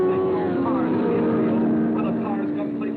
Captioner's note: car revving